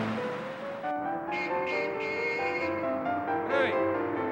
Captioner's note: horn beeping